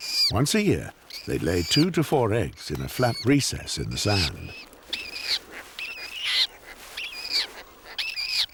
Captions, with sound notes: Once a year, they lay two to four eggs in a flat recess in the sand. [chick wailing]